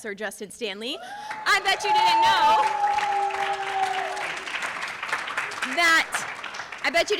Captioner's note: audience cheering